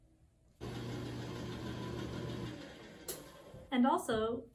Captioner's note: machine humming